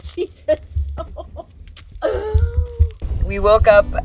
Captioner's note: both laughing